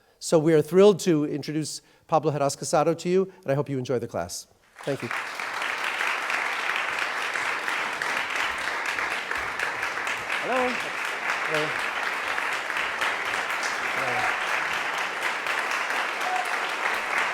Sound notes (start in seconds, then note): 5.2 audience applauds